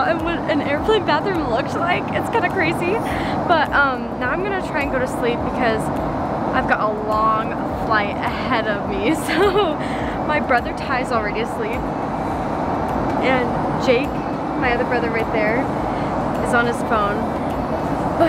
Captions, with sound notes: what an airplane bathroom looks like, it's kinda crazy, but now I'm gonna try and go to sleep because I've got a long flight ahead of me so. (laughs) My brother Ty is already asleep. And, Jake, my other brother right there is on his phone.